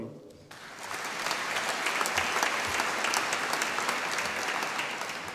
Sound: audience applauding

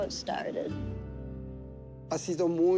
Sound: speaking spanish

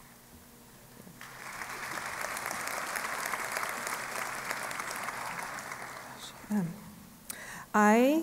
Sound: applause

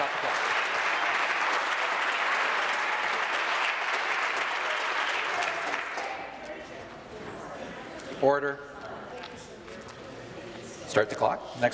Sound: applause

